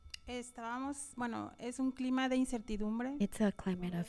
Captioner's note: panelist speaking in Spanish